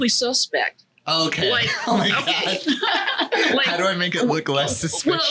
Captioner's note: laughs